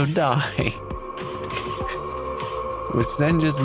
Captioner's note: laughs